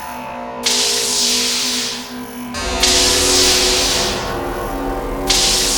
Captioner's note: weird Sci-fi/electricity noises